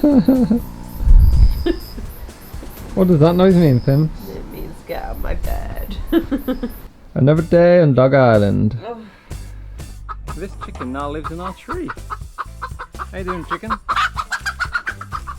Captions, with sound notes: What does that noise mean Pimps? It means get out my bed... Another day on Dog Island. [Groans] this chicken now lives in our tree. How you doing chicken?